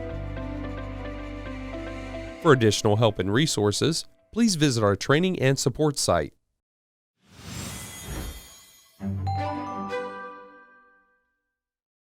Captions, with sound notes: For additional help and resources, please visit our training and support site. (air whooshing) (bright music)